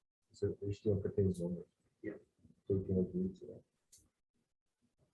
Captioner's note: indistinct conversation